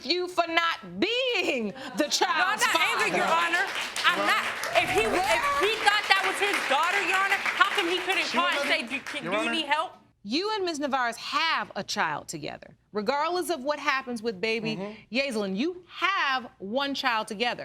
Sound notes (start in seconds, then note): 2.4 crowd applauding